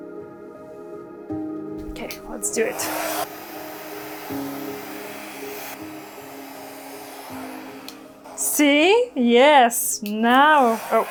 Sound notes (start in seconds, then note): 3.3 blow dryer blowing